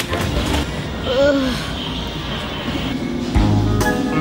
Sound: sighing

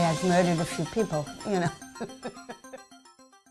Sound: laughs; soft music

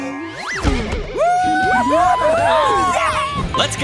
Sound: powers down; cheering

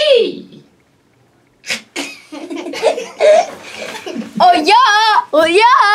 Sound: laughs

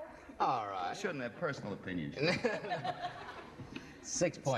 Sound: singsong; laughter

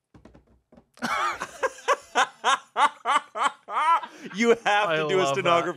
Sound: everyone laughs

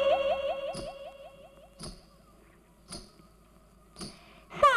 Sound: anklets tinkling

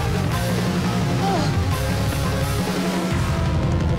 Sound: gasps

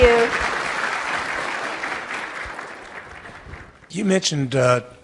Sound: audience applauding

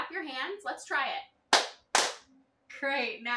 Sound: clap

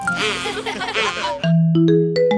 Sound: family laughs

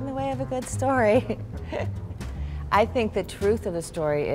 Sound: laughs

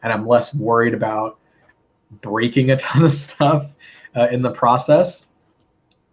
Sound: laugh

